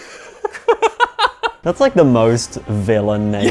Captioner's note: both laughing